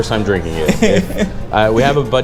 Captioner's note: laughs